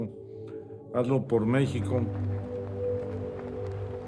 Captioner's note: flag flapping; wind blowing